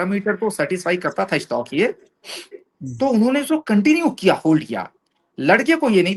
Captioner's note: nasal sound